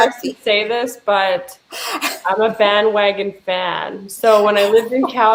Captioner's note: laughing